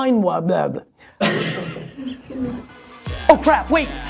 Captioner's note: laughter